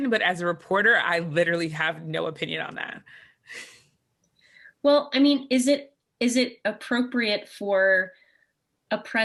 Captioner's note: chuckle